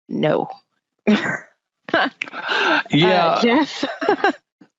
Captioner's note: laughing